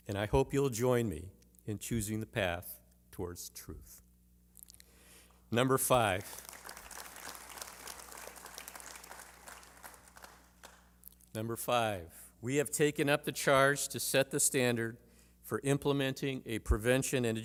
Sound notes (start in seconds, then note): 5.9 applause